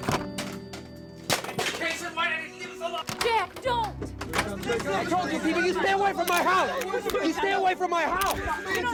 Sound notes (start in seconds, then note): 0.0 phone clattering; 4.6 reporters shouting; 7.2 reporters chattering